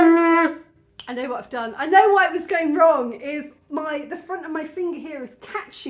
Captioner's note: solid note; finger click